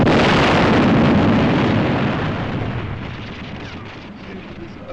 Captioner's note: explosion; murmuring